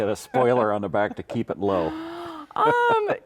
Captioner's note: laughs